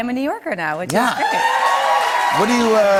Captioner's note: cheers and applause